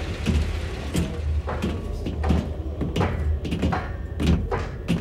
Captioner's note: footsteps marching